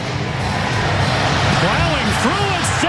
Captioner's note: crowd cheering